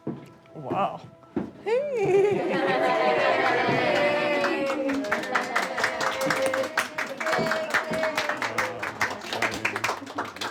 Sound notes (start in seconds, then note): 3.1 applause